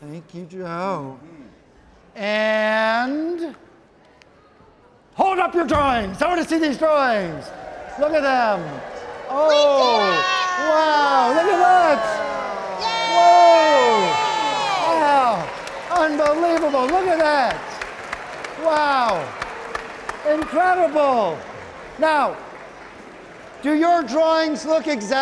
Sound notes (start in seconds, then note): 18.0 audience clapping